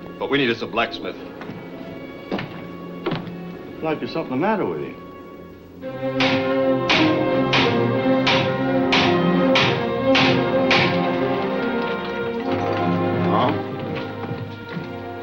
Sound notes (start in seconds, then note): 5.8 dramatic music; 6.1 hammer clanging